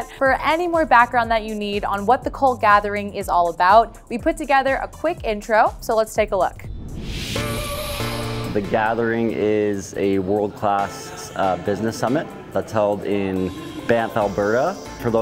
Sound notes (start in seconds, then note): 6.5 air whooshing